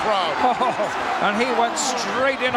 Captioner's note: Lord Alfred chuckling